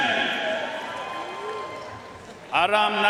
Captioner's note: audience cheering and applauding